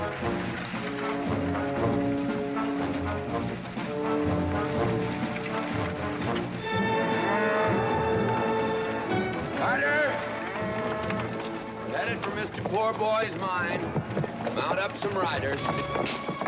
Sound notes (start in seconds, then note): 0.2 dramatic music; 10.6 steer mooing